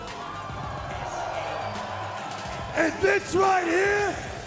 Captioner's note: crowd cheering